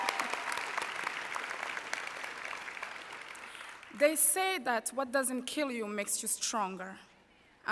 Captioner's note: applause